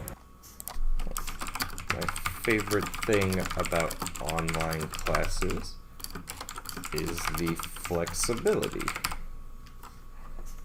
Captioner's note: keyboard typing